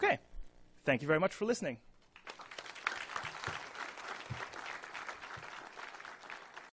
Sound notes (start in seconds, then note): 2.1 applause